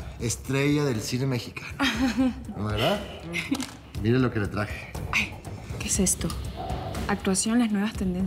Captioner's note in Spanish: irma ríe